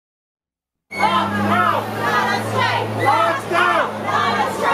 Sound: chant

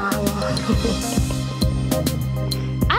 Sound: laughs

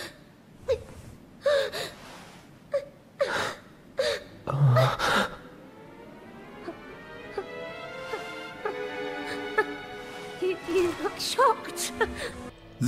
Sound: in-game audio

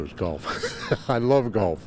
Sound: laugh

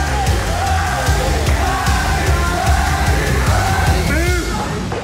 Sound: crowd chanting "Paddy!"

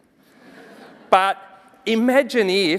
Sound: audience chuckling

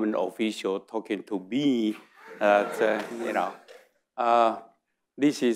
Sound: audience laughing

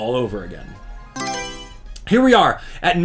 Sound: Mario Selection Sound

